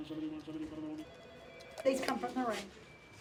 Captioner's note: phones ringing